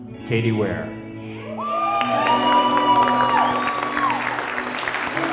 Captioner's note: crowd cheers